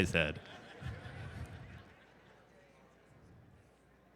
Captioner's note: crowd Laughter